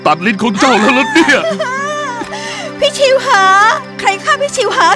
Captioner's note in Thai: ร้องไห้